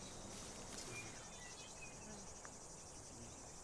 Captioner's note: bandits whispering